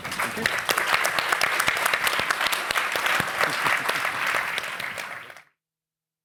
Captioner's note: applause